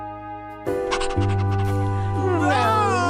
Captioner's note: dog panting